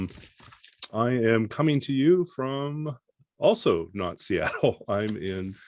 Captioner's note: chuckles